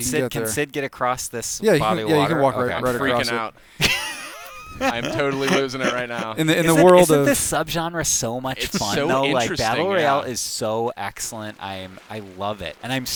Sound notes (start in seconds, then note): 3.8 laughter